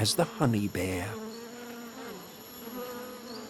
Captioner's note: buzzing